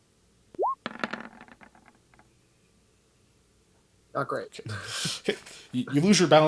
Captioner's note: dice roll